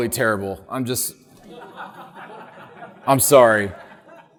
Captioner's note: audience laughing